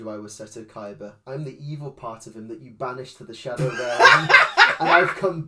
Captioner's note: loses shit